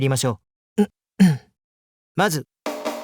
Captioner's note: clears throat